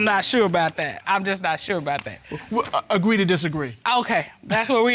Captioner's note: stammers